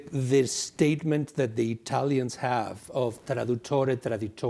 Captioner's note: speaks Italian